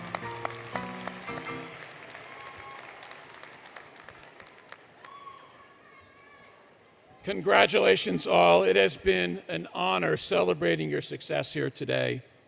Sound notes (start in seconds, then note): 0.0 applause, Cheering; 6.0 indistinct Chatter